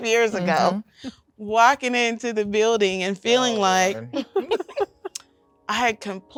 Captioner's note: laughs; laughing